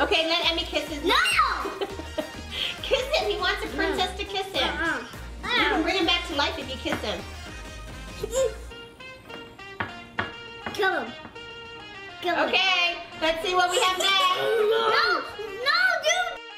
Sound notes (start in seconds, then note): 1.6 laughs; 9.8 knocking